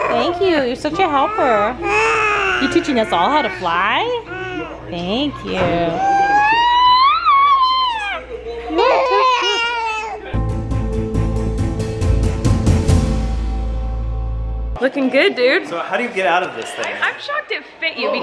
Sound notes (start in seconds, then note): 4.8 baby mumbles; 6.6 baby mumbles; 10.3 buildup music